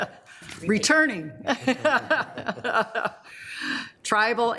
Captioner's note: laughs